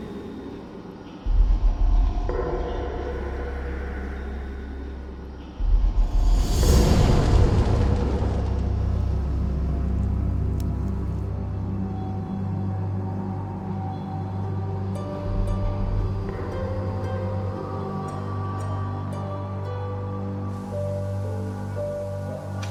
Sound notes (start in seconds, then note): 6.4 flames; 8.9 suspenseful music; 20.7 waterfall sounds